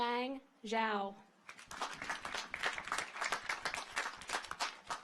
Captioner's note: audience applauds